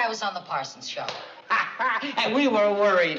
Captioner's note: laughing